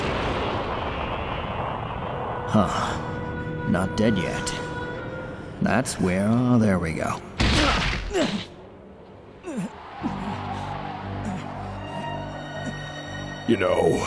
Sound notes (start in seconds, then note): 9.4 continues to grunt in exhaustion